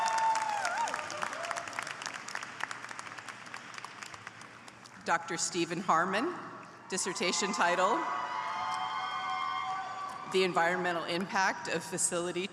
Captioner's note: applause